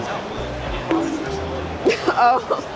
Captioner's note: coconut bonk; laughing